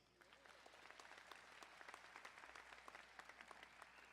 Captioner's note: crowd applauding